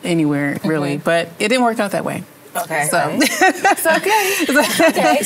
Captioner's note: laughs